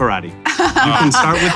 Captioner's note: laughing